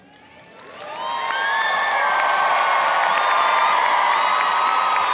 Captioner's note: audience applauding and cheering